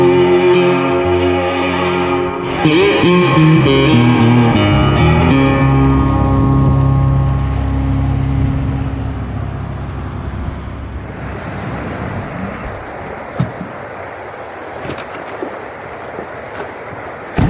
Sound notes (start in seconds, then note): 5.5 car engines humming; 12.8 water burbling